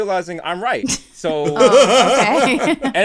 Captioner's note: laughter